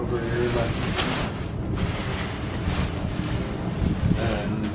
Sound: nylon folding

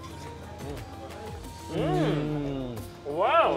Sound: eating

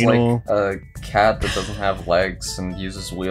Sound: wheezes

